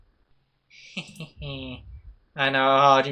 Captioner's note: goblin Laugh